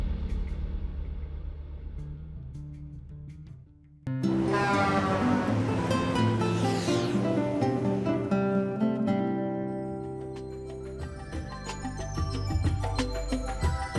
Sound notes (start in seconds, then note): 4.2 truck horn honking; 5.1 lighthearted music; 10.5 bright music